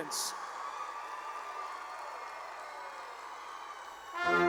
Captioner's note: cheering